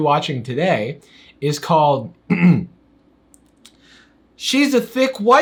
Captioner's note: clears throat